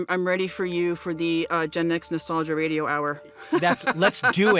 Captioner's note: laughs